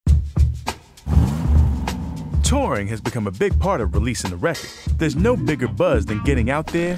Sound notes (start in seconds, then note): 0.1 hip-hop music; 1.0 engine revving